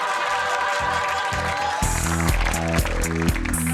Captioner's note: heavenly music; audience clapping and cheering; funky techno music